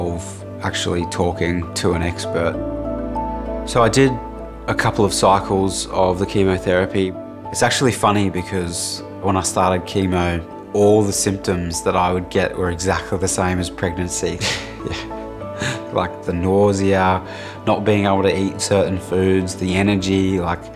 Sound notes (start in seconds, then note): 14.4 laughs